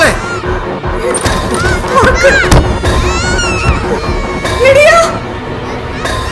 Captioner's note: children are screaming in fear; screaming